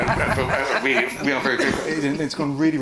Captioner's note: panel laughing